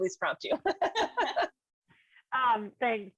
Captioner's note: group laughing